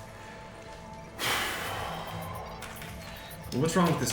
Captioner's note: deep exhale